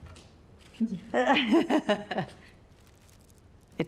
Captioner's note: whispering; laughs